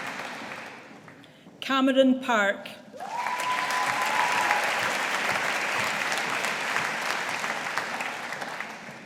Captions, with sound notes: Cameron Park. (AUDIENCE APPLAUDING)